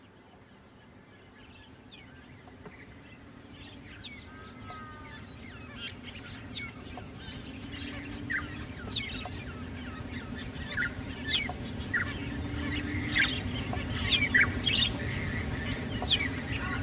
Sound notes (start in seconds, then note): 3.9 birds singing; 11.3 birds singing